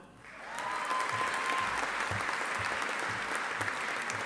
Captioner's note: audience applauding